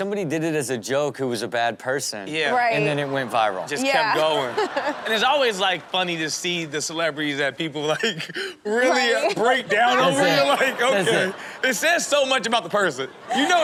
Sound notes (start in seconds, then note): 2.8 crowd laughs; 9.0 laughs